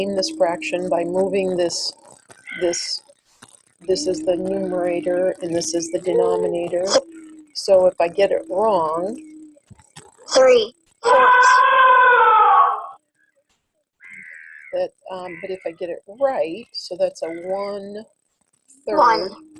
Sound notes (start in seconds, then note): 10.5 voiceover; 11.0 elephant trumpeting